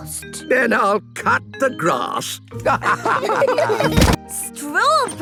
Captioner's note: laughter